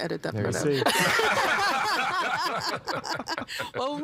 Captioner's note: all laughing